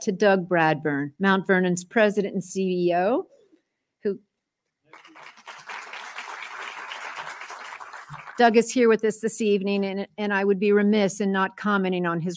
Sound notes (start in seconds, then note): 4.9 applause